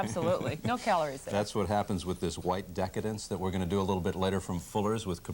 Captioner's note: chuckles